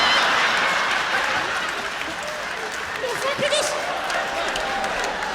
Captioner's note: laughter